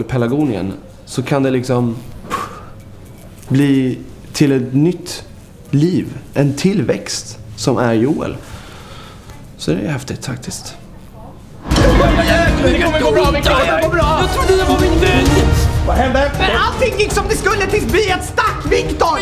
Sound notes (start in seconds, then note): 2.2 poof; 11.6 panicking voices trying to comfort Victor